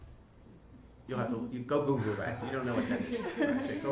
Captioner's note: interviewers laugh